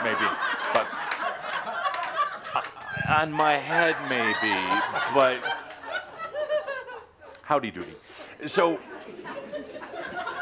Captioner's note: laughter